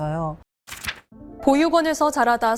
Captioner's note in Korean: 화면 전환 효과음